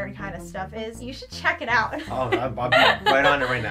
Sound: laughs

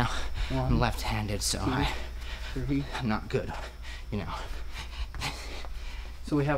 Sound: heavy breathing

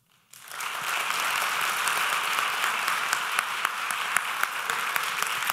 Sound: audience applause

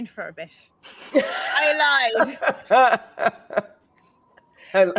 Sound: all laughing

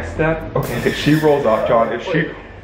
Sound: screeching

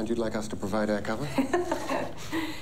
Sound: laughs

